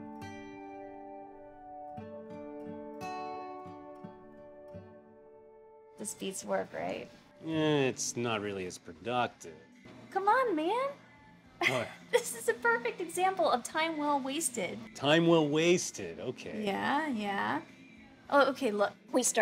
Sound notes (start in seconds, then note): 0.2 gentle acoustic music; 11.6 chuckles